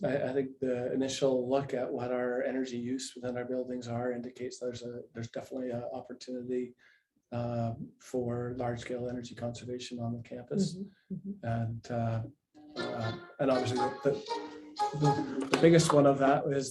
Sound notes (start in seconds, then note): 13.5 ringtone playing